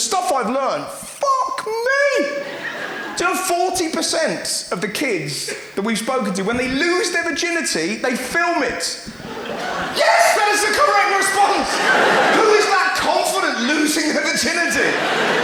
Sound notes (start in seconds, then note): 9.1 audience gasps; 12.1 audience laughs